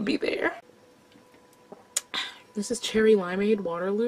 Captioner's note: smacks mouth